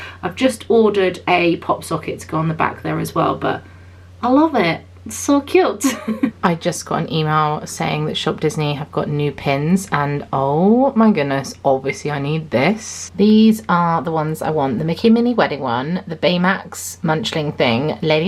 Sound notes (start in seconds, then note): 5.8 laughs